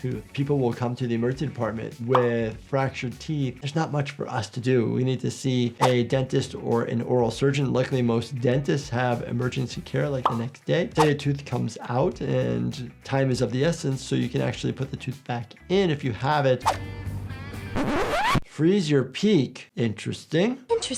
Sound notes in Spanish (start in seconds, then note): 17.7 cinta chillando